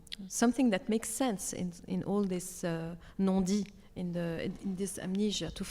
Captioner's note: speaks French